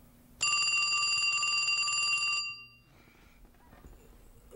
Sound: phone ringing

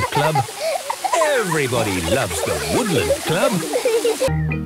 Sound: laughter

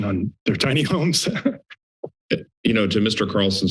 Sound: laughs

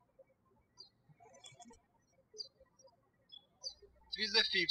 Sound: birds chirping

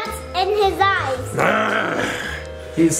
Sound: mummy growling

